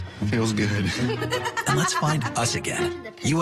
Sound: laughs

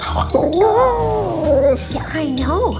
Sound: howling

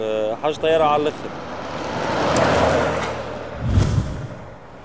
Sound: car passing noise

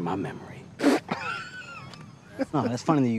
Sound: all laughing

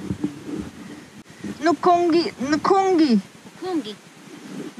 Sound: speaks Foreign Language

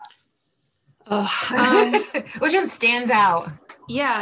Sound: laughing

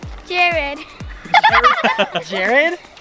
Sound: laughing

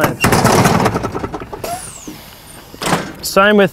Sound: loud bang

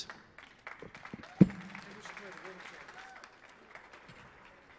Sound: audience applauding

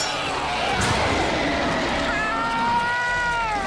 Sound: roaring

